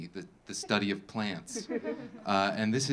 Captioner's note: audience laughing